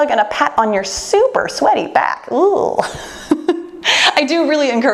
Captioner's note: laughs